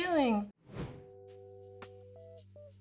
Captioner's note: wind whooshes; soft R&B music